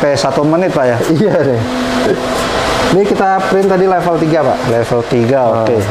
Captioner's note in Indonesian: suara mesin printer